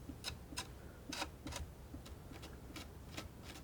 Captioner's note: scratching; scratching